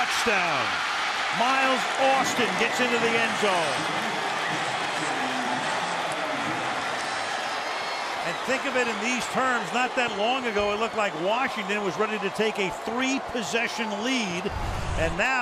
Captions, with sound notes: Touchdown! [cheering] Miles Austin gets into the end zone. [pa announcement] And think of it in these terms. Not that long ago, it looked like Washington was ready to take a three-possession lead.